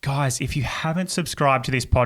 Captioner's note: none